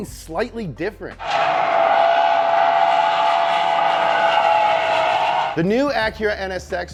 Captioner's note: engine revving and tires skidding